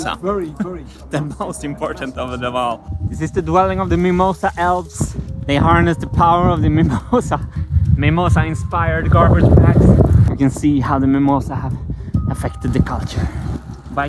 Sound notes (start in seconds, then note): 0.0 laughs; 6.8 chuckles